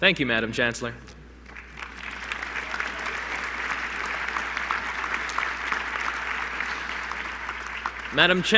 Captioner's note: applause